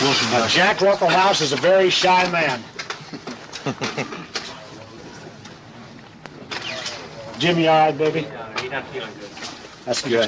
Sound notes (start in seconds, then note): 3.0 laughing